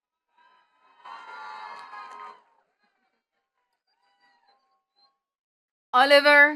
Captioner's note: attendees cheering and clapping